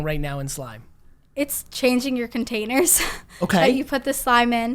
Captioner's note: laughs